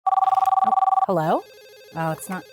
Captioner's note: phone ringing